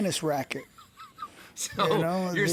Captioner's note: laughs